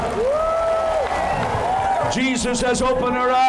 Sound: cheers and applause

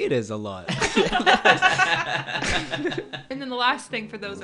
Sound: all laughing

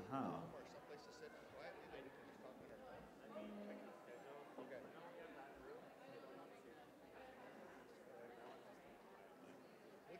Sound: background chatter over remaining one minute

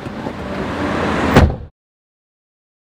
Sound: car door shuts

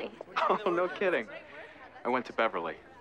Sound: giggles

